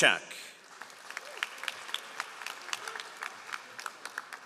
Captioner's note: all applauding